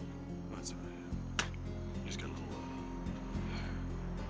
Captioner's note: spits